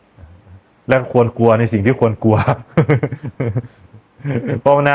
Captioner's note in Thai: เสียงหัวเราะ